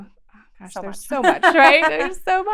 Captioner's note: laughs